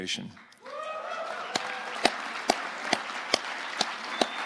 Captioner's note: audience applauding